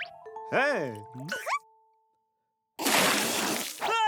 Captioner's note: caterpillar noises